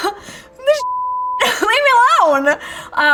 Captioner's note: beeping